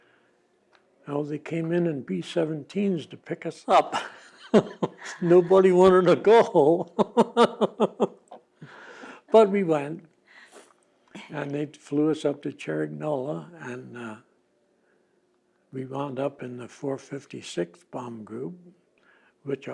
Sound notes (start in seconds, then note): 7.9 laughing